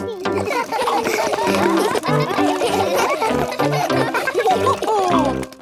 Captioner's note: all laugh